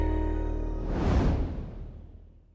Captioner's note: relaxing electronic music; air whooshing